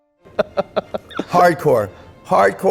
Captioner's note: laughing